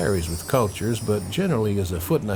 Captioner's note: bells chiming